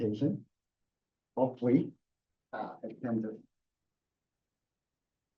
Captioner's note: background chat